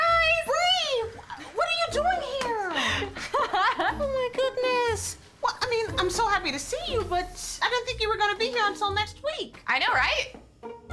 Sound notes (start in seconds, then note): 2.7 Bree laughs